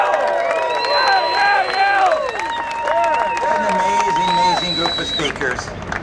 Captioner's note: cheers and Applause